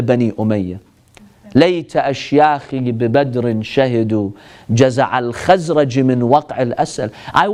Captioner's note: Arabic